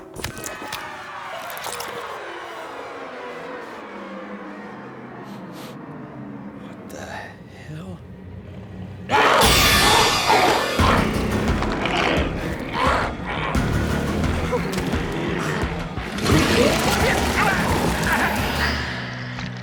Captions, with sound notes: (dramatic music) - (sniffs) What the hell? (zombie growling) (Mose whimpers) (Mose shouts)